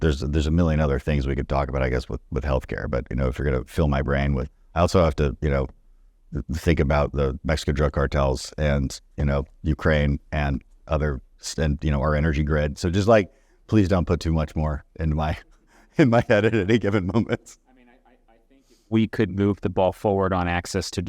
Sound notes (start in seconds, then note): 15.8 laugh